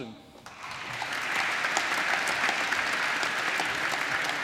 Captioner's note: applause